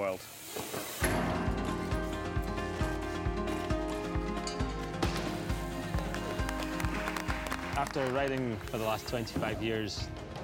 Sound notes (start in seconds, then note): 0.2 bright music; 5.8 applause